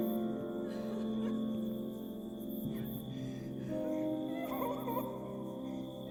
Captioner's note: somber music continues; person crying